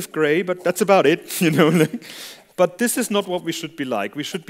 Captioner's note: laughter